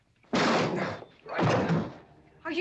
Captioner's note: door crashing open